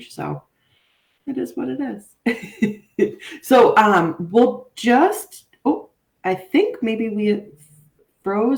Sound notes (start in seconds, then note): 2.2 chuckles